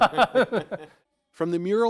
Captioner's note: laughter